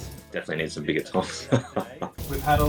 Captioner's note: laughs